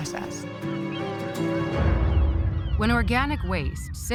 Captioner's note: birds cawing